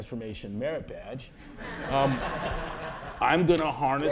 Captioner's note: laughter